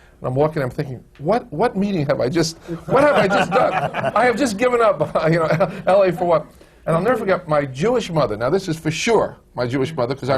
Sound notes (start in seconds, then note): 2.7 laughs; 2.7 laughter